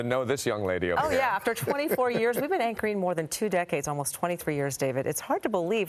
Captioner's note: laughter